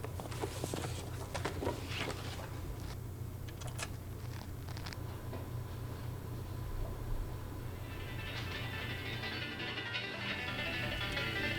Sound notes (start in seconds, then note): 3.7 record player starts; 7.9 fast-paced banjo music